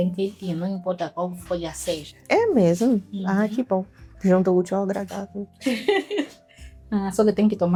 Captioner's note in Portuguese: risadas